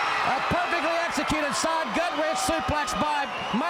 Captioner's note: crowd cheering